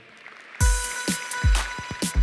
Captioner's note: applause